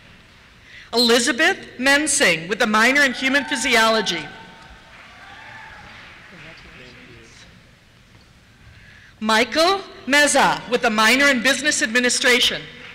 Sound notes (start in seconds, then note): 4.6 cheers; 6.2 voiceover